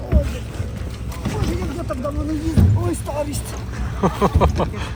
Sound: laughter

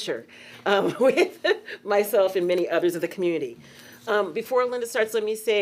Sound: laughing

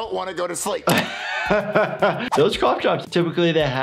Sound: laughs

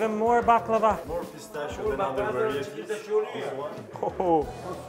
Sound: foreign language

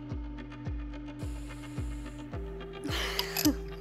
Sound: inhales; laughs

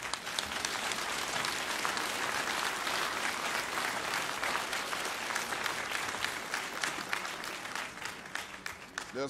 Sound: applause

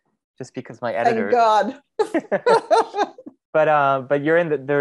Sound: laughing

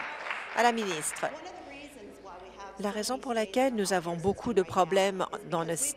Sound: applause

